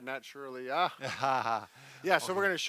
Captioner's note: both laughing